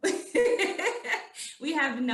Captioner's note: laughing